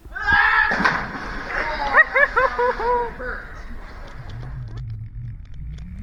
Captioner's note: holler scream!; laughing Ooooh!